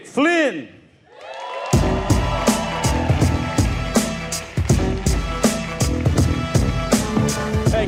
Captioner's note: audience cheering; cheerful upbeat music